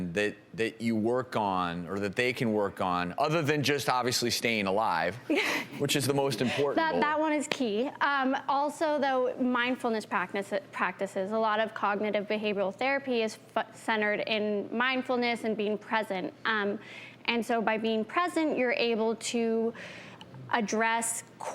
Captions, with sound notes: that you work on, or that they can work on, other than just, obviously, staying alive, which is the most important? - (laughs) That one is key. Also, though, mindfulness practices. a lot of cognitive behavioral therapy is centered in mindfulness and being present. And so by being present, you're able to address core triggers